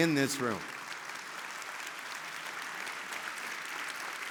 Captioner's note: audience applauding